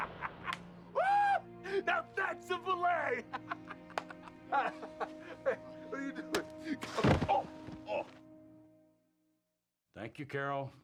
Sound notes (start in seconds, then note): 7.0 loud, dull thud